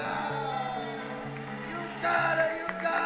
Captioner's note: crowd Cheering